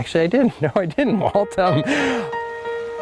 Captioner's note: chuckles; soft piano playing